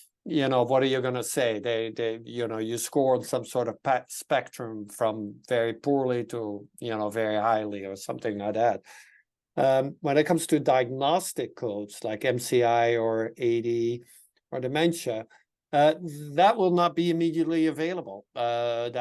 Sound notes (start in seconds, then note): none